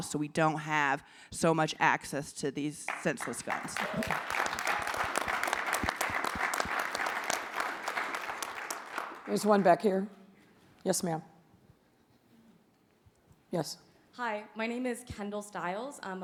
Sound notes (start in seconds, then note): 2.8 audience applauds